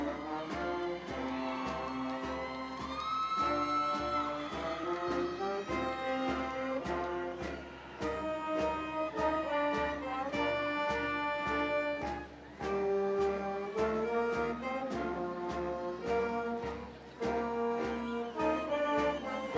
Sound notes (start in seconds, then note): 1.5 audience cheering